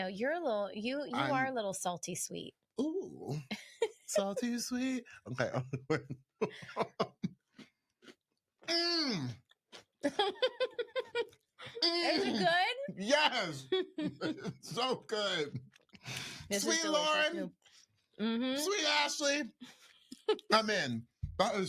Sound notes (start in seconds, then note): 6.4 laughs; 10.0 laughing